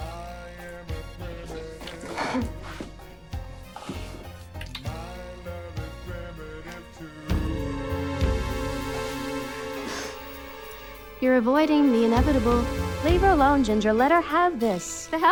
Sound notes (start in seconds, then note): 0.0 gentle music; 2.4 Margaret laughing; 8.2 dramatic music